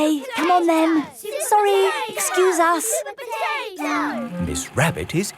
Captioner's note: children chanting